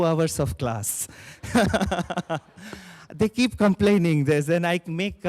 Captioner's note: chuckles